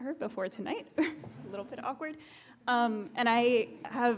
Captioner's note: laughs